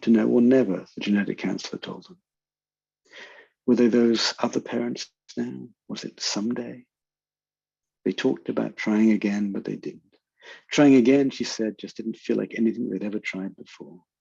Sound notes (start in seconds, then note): none